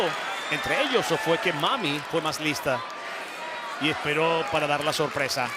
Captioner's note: commentator speaking Spanish